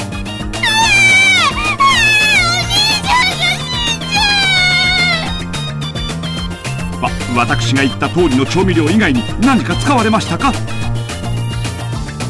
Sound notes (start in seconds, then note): 0.5 screams